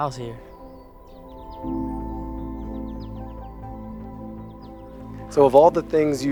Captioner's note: birds chirping; gentle music